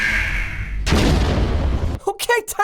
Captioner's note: alarm sounding; explosion